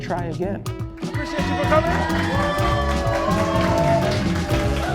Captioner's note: cheering